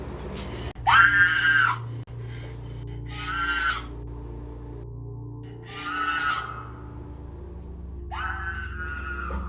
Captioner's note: screaming